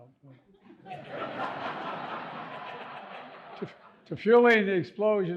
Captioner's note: audience laughing